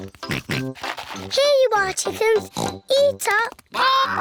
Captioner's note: oinks